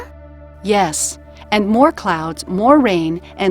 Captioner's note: voiceover